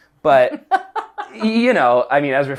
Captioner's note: laughing